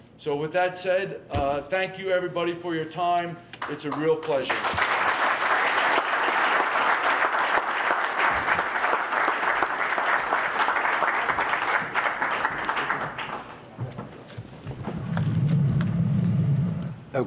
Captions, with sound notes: So, with that said, thank you everybody for your time. It's a real pleasure. (applause)